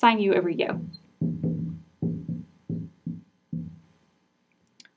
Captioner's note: marker knocking